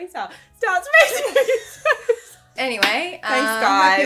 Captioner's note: laughing